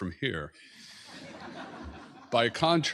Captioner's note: laughter